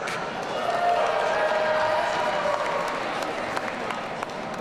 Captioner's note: audience cheering